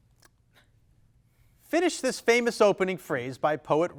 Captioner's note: none